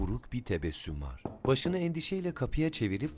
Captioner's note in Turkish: Kapı vurma sesi